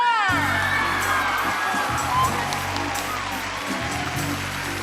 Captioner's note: audience applauding